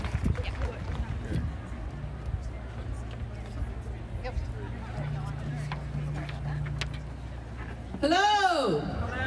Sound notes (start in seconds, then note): 1.7 crowd chattering